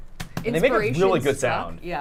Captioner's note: tortillas clapping